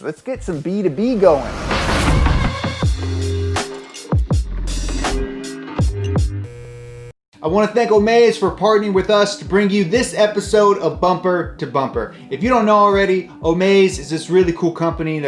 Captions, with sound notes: let's get some B2B going. (chilled music) (fluorescent bulb buzzing) I want to thank Omaze for partnering with us to bring you this episode of "Bumper2Bumper". If you don't know already Omaze is this really cool company